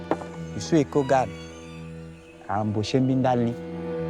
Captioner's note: foreign language